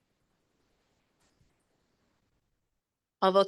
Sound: silence

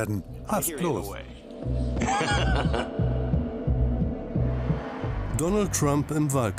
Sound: laughs

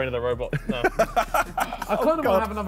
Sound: all laughing

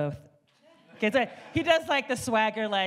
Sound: audience laughs

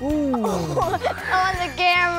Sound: laughs

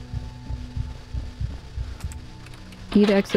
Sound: heartbeat

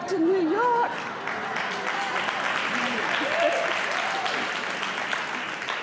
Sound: laughter, applause

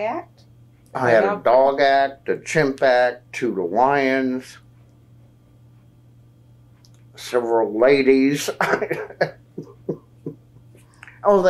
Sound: laughs

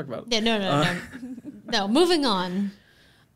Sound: laughing

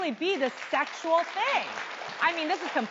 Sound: audience applauding

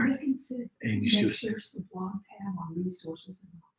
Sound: speaking faintly

